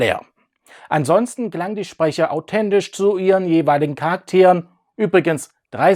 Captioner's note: German